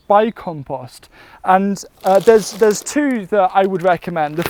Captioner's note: bag crinkling